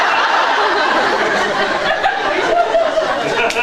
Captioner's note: laughs; laughs, inaudible; laughs